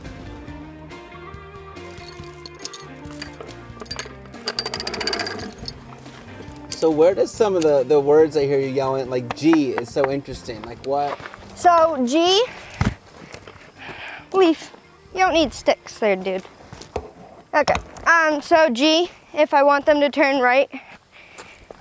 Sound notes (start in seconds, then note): 0.2 light upbeat music continues; 3.9 chain clanking through ring